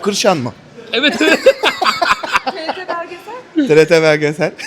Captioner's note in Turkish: kahkaha